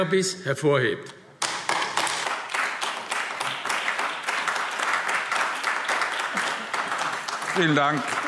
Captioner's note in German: Beifall AfD